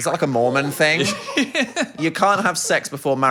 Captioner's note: everyone laughs